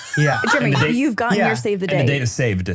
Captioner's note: laughs